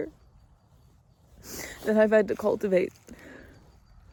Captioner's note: sniffles